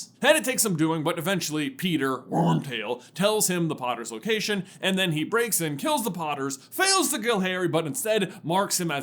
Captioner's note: grumbles